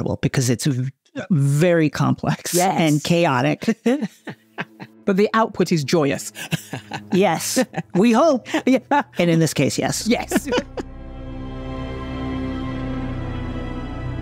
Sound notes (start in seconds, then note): 6.3 laughs; 11.2 dramatic music